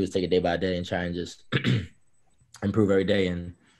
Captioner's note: throat clearing